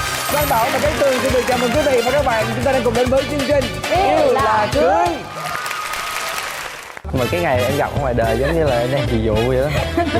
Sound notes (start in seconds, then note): 5.2 applause